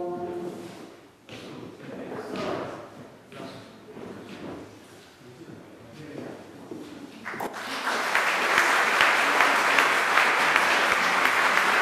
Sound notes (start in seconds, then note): 7.2 applause